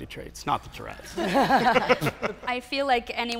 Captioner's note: laughing